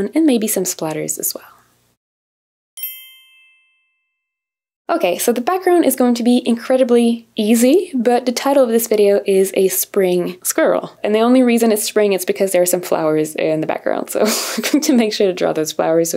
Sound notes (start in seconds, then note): 2.8 bell chimes